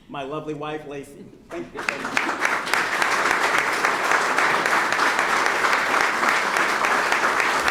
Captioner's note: applause